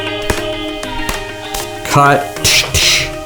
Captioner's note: arms slapping